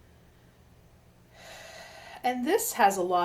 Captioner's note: exhales